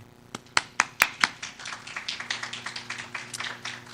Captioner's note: audience applause